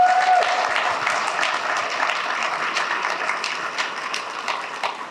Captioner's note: applause